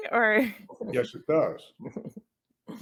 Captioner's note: laughs